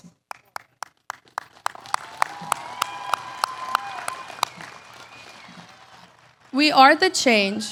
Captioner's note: applause